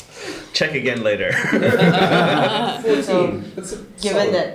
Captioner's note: laughter